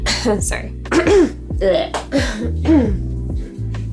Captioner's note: coughing; clears throat